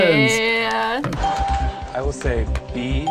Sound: bell rings

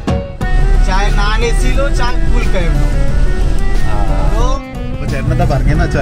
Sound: speaking in Hindi

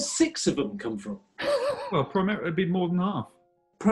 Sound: sniggering

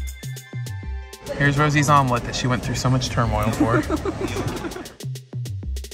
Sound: laughs

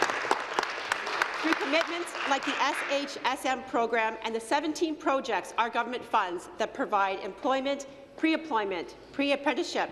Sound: applause

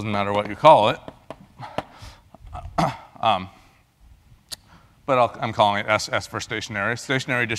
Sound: cough

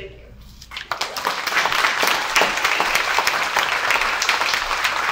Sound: audience applauds

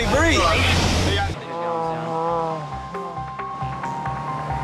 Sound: man moaning

